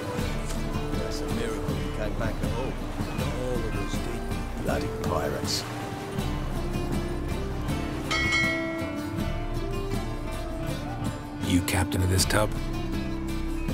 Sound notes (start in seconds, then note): 8.0 bell rings